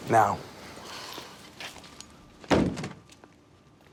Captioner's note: sighs